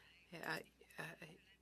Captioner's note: speaking French